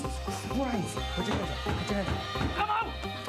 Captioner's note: banging on door